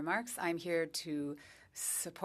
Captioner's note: speaking French